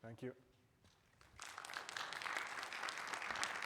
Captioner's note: audience applauding